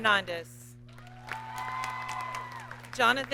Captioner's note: audience cheers and applauds